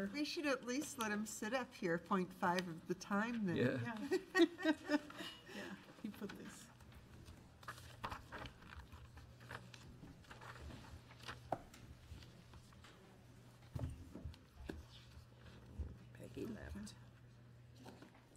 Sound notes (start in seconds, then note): 4.0 board laughs